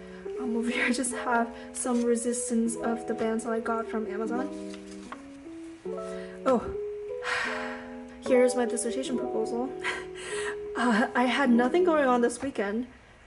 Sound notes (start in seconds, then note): 7.3 sigh